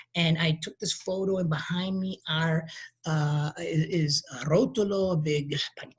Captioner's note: speaking in a foreign language